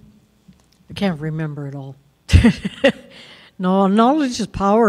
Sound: laughs

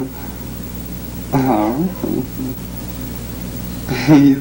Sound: laughs

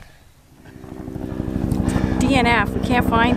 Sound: helicopter buzz

